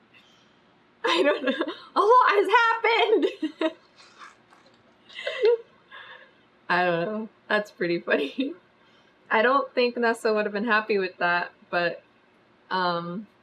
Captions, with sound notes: I DON'T KNOW A LOT HAS HAPPENED [LAUGHS] I DON'T KNOW THAT'S PRETTY FUNNY I DON'T THINK NESSA WOULD HAVE BEEN HAPPY WITH THAT BUT UM